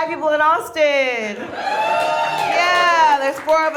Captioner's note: audience cheers